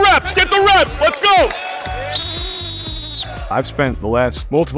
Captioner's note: whitsle blows